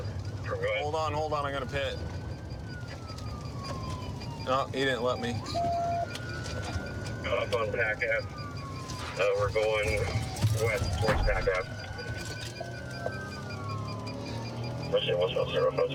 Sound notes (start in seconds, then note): 12.0 sirens wailing